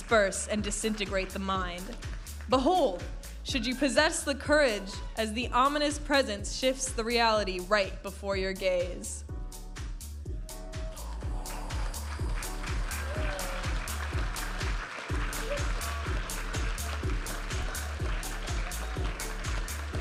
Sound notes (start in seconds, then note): 10.0 upbeat music; 10.7 audience applauding and cheering